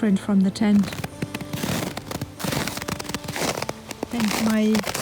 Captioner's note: snow crunching